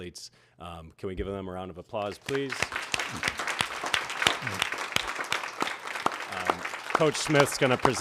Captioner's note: applause